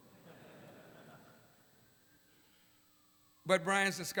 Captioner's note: laughter